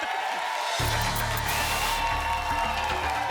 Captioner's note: applause and cheering; static